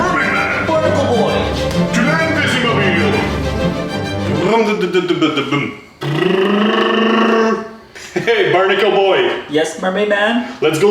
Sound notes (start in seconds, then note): 4.0 mimicking car engine